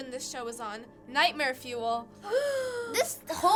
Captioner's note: gasping